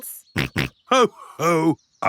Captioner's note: snorts